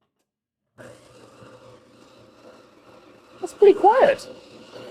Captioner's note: machine grinding